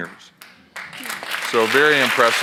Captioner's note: audience applauds